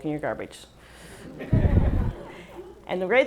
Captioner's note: laughs